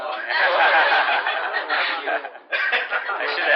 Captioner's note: laughter